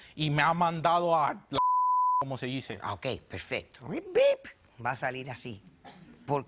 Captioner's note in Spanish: Bip